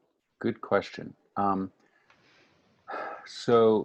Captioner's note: exhales